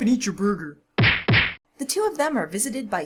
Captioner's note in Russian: звуки ударов